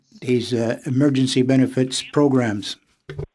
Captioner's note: speaking French